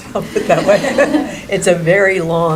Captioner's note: laughing